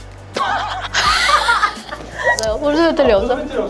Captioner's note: laughter